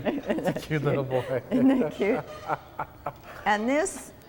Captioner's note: laughs